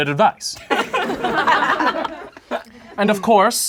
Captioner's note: laughing